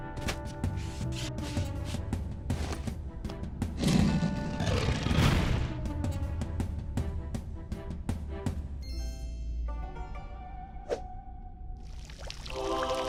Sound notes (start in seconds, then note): 3.1 sliding; 4.5 slam; 11.8 trickling water